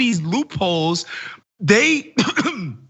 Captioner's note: cough